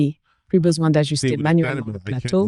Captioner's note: speaking In Foreign Language